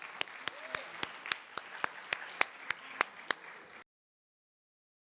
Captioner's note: applause